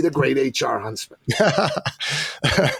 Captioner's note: laughing